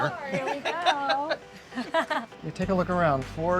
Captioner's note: laughing